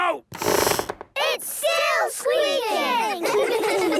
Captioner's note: squeaks